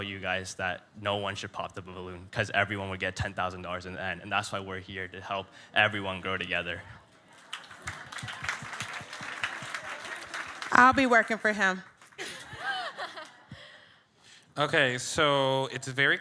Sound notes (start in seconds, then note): 7.2 audience clapping